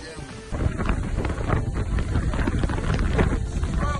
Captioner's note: wind rushing